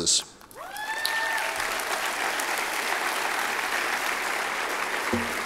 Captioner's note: cheers and applause